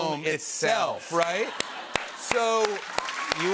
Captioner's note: laughter and applause